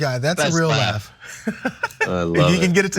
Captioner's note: laugh